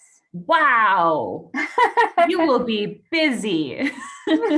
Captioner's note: laughs; chuckle